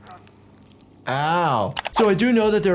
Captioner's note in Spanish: Charlie sigue gritando; clics del ratón